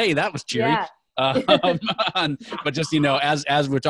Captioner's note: laughing